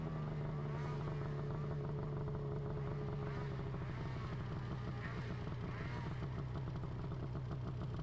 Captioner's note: engine humming continues